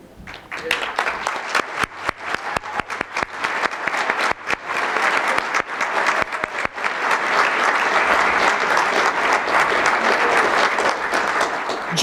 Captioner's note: applause